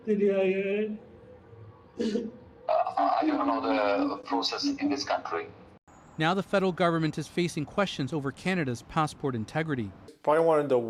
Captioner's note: crying